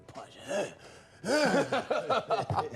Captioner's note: mimics grunting; laughing